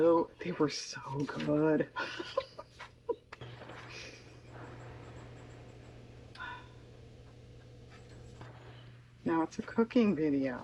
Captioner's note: laughs